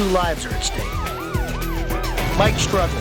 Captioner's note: ambulance wailing